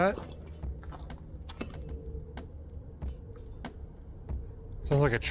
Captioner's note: distant rumbling